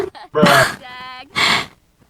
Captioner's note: bruh sfx